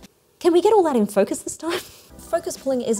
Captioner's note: laughs